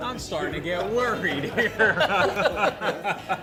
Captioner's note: laughing